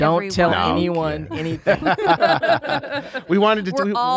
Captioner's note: they laugh